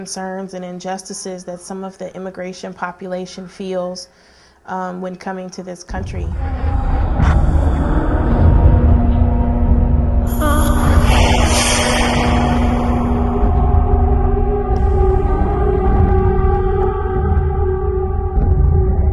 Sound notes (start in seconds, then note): 10.3 moans; 11.0 steam vents expelling air; 13.1 eerie ringing